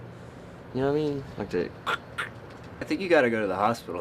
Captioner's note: mimics crunching sound